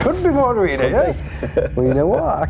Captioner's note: laughing